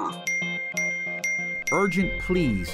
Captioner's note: electronic dinging